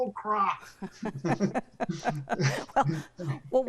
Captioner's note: laugh